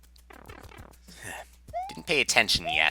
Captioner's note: sigh